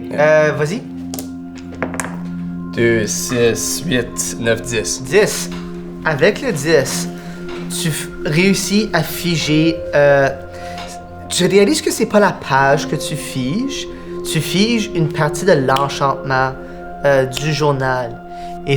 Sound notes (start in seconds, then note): none